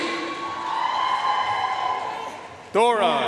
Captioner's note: audience cheering and applauding